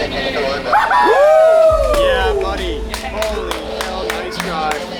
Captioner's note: group celebrating